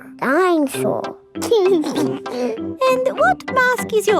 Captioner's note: giggles